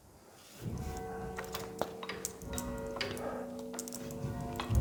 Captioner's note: bells chime